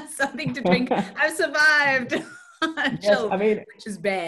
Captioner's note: laughs